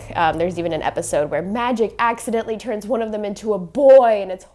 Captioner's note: mockingly